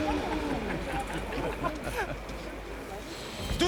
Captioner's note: trappers laughing